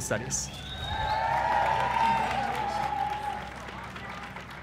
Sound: applause

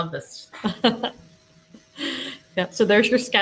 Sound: laughs

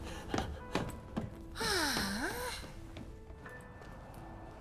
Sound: big sigh

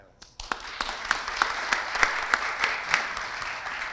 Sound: audience applauds

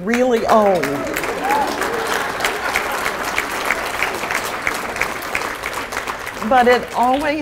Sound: applause

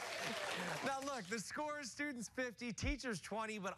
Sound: cheers and applause; cheers and applause

